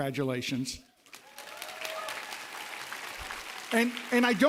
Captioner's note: applause